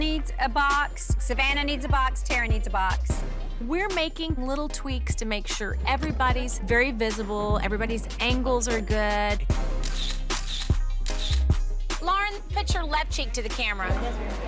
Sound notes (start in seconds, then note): 9.2 upbeat music; 11.0 camera clicking